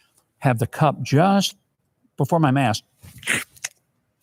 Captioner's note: slurping